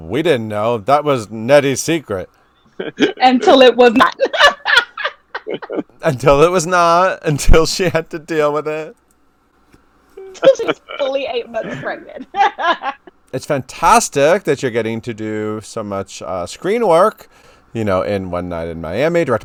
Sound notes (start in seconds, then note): 3.9 laughing